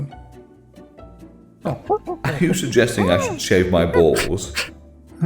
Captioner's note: ape noises